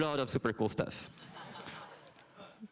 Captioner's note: laughter